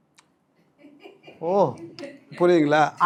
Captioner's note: laughter